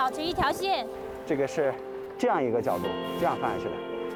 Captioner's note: speaking chinese